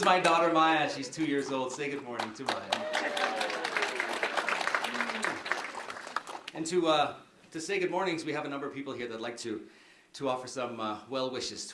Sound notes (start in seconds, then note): 3.1 applause